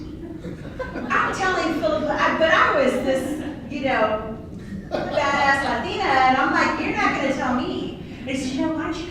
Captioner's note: laughter